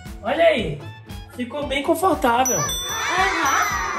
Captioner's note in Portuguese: Som de brilho